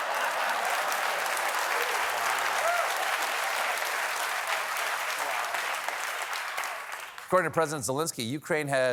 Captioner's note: applause